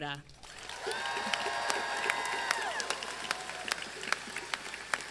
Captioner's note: crowd cheering and clapping